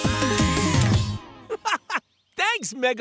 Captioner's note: laughing